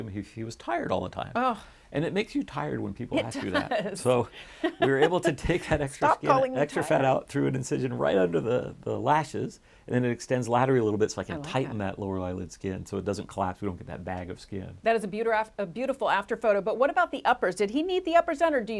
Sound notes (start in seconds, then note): 3.2 chuckles; 4.4 laughs